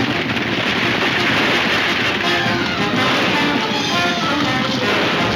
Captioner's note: gunshots banging